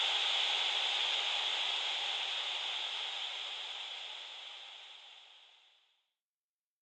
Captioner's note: static hiss gradually fades